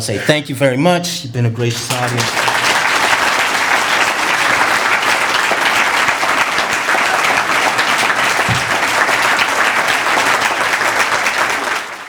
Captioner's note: applause